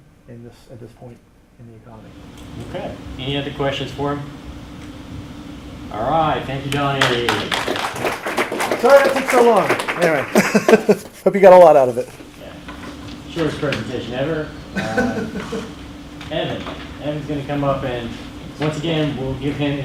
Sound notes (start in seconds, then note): 6.7 applause